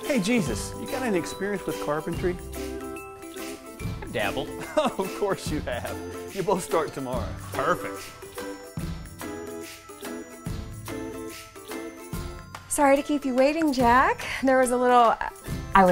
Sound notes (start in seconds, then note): 4.5 laughs